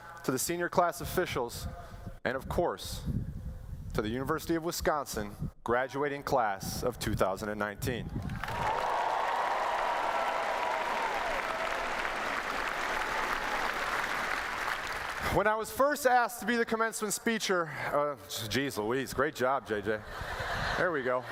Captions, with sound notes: the senior class officials, and, of course, to the University of Wisconsin graduating class of 2019. [ Applause ] When I was first asked to be the commencement speecher Geez Louise great job J.J. There we go.